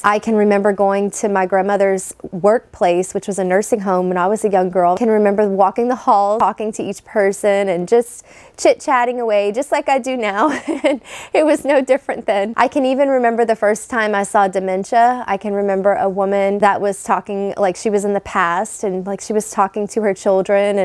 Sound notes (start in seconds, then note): 10.4 laughs